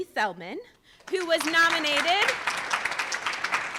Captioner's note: audience applauds